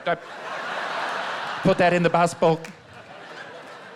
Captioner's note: laughter